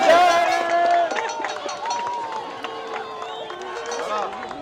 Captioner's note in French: acclamation